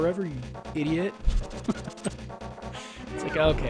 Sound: laughing

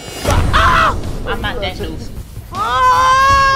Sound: screams

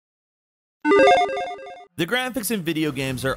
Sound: logo beeping

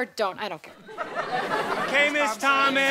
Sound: audience laughter

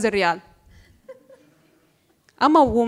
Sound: laughter

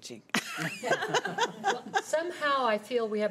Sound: laughing

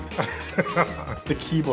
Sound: laughs

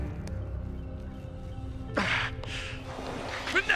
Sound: grunting; non-english speech

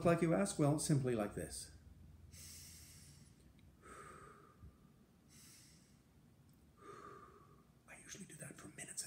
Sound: breaths deeply

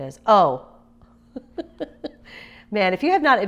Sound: laughs

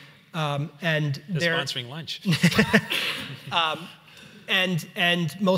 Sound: laughs

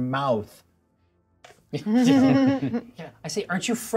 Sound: co-hosts laughing

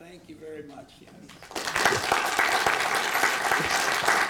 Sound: applause

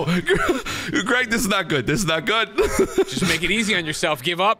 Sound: laughs

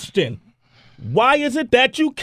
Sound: sigh of Frustration

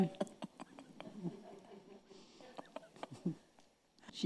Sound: chuckling

